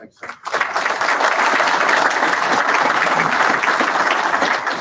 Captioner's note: audience applauds